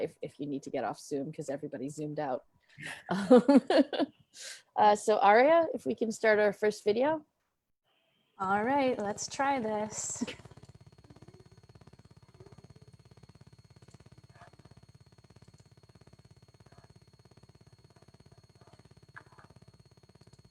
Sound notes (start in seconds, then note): 2.8 laughs